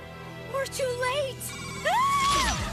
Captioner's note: screams